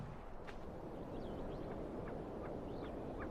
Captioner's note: wind blowing in the mountains